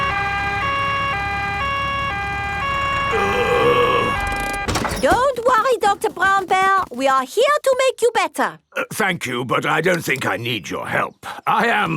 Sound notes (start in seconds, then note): 0.0 siren wailing; 3.1 groaning